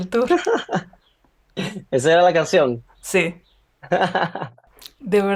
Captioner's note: laughter